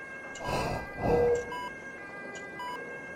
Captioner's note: irregularly beeps